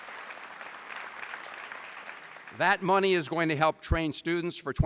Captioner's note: applause